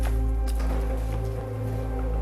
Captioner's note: mechanical humming